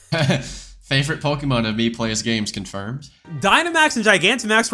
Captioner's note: laughs